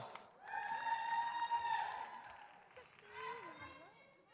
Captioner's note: audience cheers